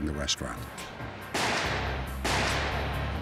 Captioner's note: gunshot